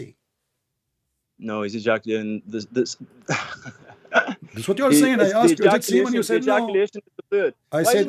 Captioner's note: ketawa!